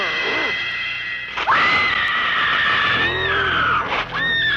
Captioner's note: screams